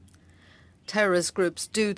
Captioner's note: speaking French